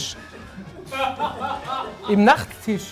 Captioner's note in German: Lachen